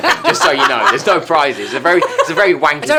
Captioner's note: laughing